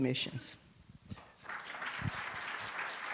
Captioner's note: applause